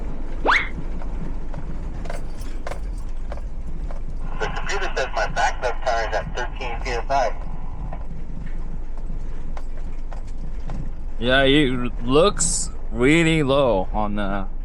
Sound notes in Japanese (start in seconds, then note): 3.7 無線の通信